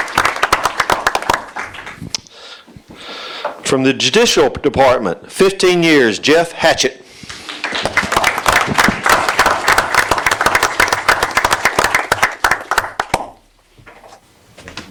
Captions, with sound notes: From the Judicial Department, 15 years, Jeff Hatchett. [APPLAUSE]